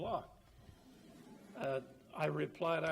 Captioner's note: audience chuckles